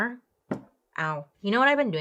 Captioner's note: arm thumps